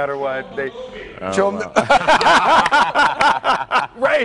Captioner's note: laughter